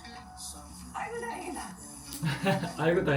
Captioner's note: broadcast sound